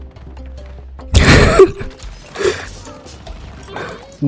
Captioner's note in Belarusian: Смех